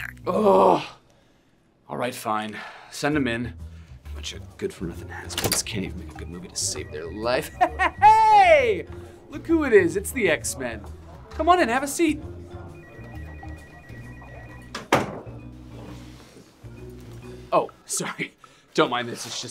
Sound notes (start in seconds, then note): 7.4 chuckles; 12.2 phone ringing; 14.8 door bangs